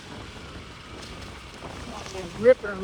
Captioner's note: motor rumbling